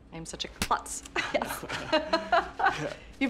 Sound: laughing

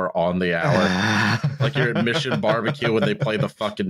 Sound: laughs

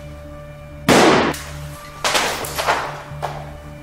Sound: gun shot

